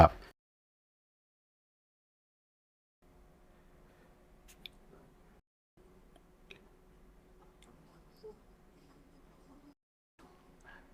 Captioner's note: silence